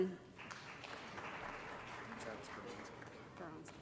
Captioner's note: applause